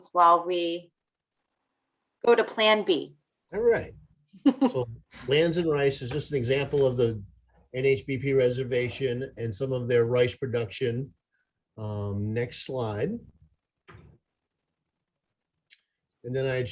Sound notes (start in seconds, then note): 4.4 laughter